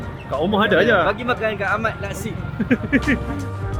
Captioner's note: laugh; background music